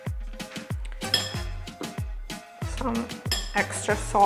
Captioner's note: utensil clinks